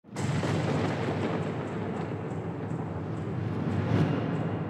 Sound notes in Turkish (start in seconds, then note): 0.0 Boğuk bir sesle acıyla bağırıyor